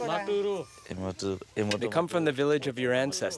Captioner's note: speaking foreign language